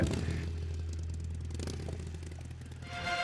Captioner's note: engine revving